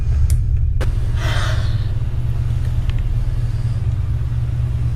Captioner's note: light switch clicking; woman sighs